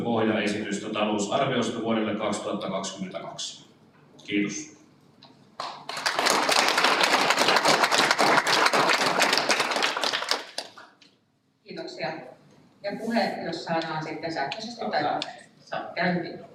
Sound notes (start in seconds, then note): 5.6 Aplodit